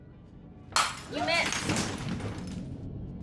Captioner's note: glass shattering